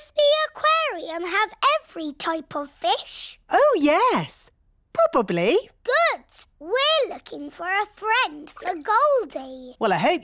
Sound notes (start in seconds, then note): none